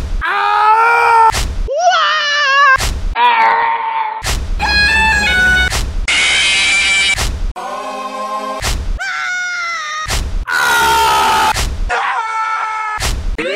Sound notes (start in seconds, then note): 0.2 Medic Death Scream; 0.2 Spy Death Scream; 3.1 Yoda Death Sound; 6.0 Fnaf Jumpscare; 6.1 scream